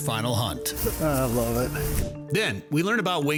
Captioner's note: air whooshing